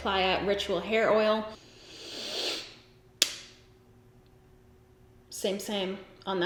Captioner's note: sniffs intensely